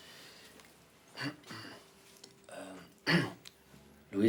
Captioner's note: clears throat